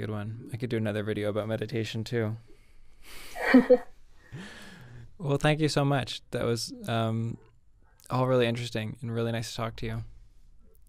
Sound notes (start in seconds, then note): 3.4 laughing